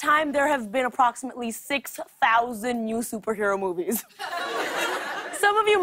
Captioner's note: laughter